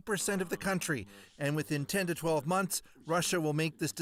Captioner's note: speaking Foreign Language